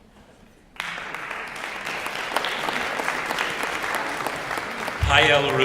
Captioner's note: applause